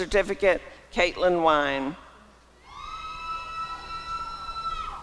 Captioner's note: applause and cheering